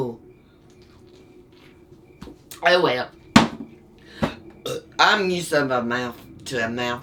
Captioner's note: laughs, burps